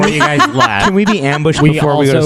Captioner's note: laughs